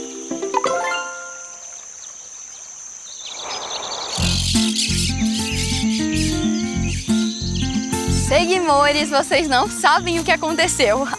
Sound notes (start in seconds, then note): 0.0 birds; 0.6 notification; 1.7 birds